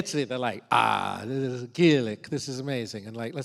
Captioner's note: speaks Italian